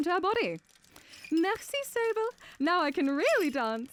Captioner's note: Imitating Coppélia's voice